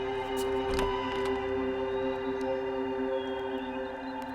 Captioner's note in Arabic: رنين جرس الباب